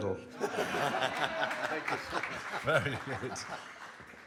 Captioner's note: audience laughs